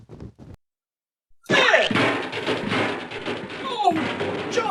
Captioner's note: snow scrunches; snow splat sound, Trash cans banging